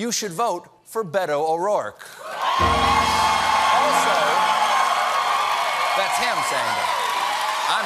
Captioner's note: cheers and applause